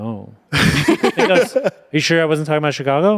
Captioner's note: everyone laughs